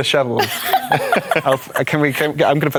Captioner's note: laughter